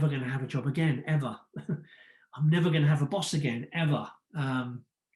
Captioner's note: chuckles